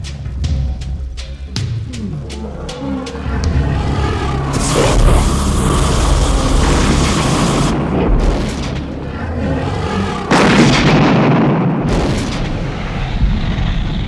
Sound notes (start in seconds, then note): 7.7 dragon growls; 7.7 fire blazes; 11.3 dragon growls